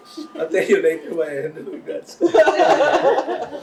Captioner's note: laughter